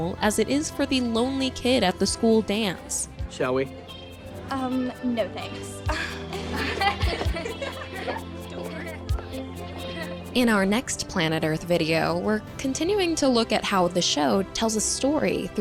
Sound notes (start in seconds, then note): 9.7 laughs